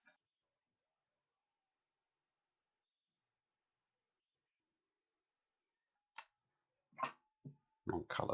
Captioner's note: silence